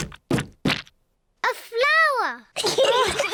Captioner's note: giggles; all laugh